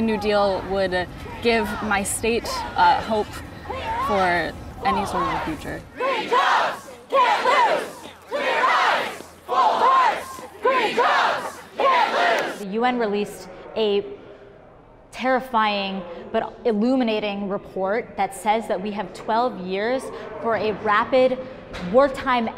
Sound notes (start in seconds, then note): 5.9 chanting